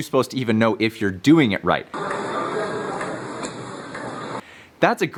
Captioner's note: people chattering